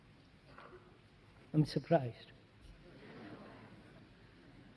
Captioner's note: Risas